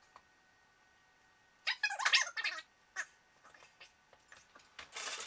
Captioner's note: more high-speed chatter